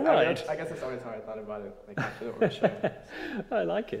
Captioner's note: laughter drowns out speech